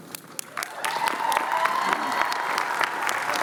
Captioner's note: cheering